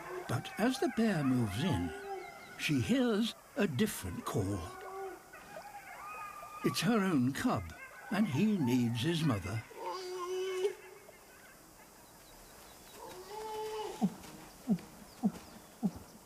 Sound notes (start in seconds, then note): 9.8 groans; 13.2 groans